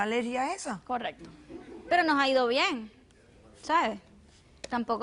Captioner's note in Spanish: Risas